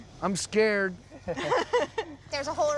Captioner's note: laughter